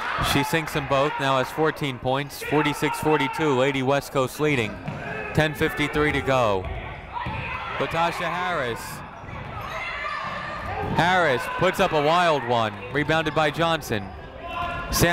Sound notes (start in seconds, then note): 9.3 people shouting in the crowd